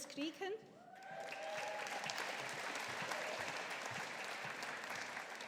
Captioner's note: audience applauding